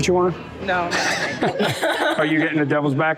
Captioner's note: all laughing